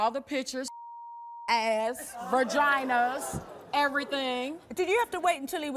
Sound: beeping

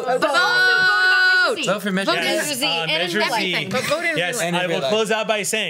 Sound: group all speaks at once excitedly

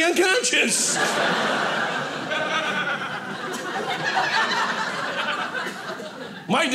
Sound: audience laughing

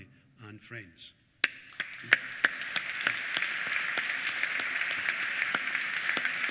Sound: applause

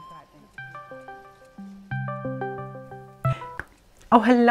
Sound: phone ringing

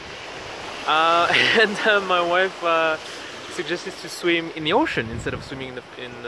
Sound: chuckles

